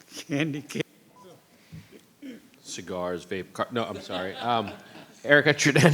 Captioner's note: laughter